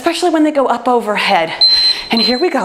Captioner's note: timer beeps